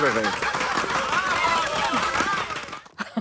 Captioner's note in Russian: хлопки